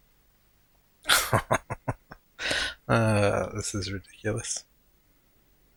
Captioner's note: chuckling